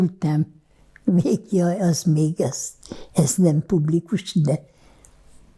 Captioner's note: laughing